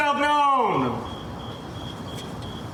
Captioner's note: crickets chirping